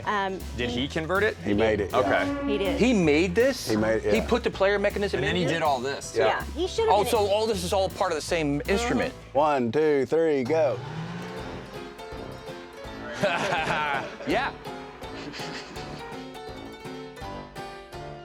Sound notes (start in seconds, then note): 11.7 upbeat piano melody; 14.9 laughing